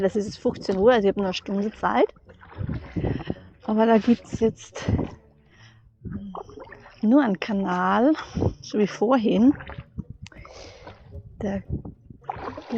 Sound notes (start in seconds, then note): 9.8 paddling; 11.9 paddling